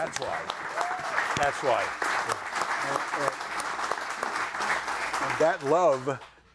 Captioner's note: audience applauding; audience cheering